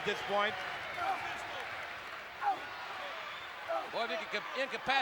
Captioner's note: applause